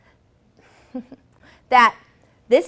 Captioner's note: chuckles